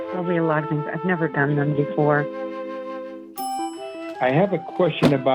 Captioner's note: timer dinging